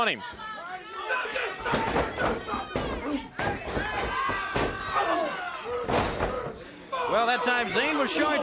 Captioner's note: crowd chatter